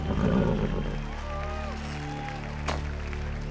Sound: nickering

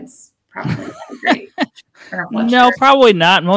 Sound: laughs

